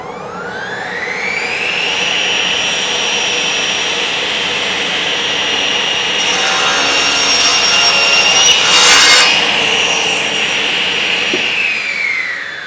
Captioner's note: cutting noise